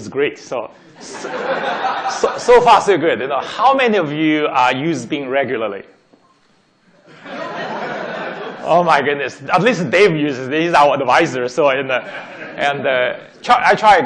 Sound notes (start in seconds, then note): 0.9 laughing; 7.0 laughing; 11.9 laughing